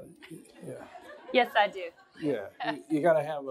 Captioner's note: laughter